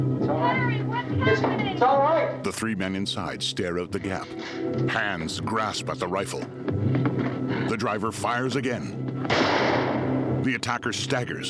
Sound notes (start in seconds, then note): 3.2 suspenseful music; 9.3 shotgun blast